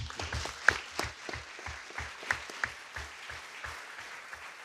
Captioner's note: audience clapping